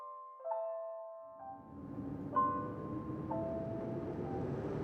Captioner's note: harsh cold wind blows